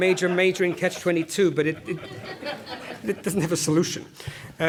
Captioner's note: laugh